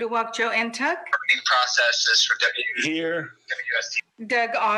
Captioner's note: speaking off mic